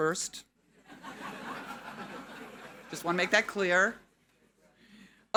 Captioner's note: audience laughing